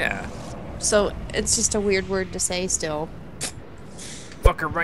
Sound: voiceover

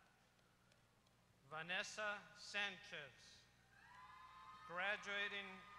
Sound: applause

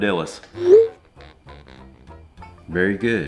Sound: text whooshing

